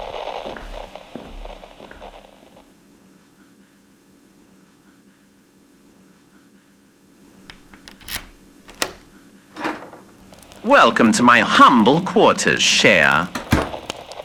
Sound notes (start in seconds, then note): 7.3 key opening door fx, fire crackling fx; 12.4 door closes fx